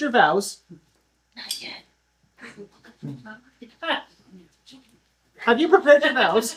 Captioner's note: stage whisper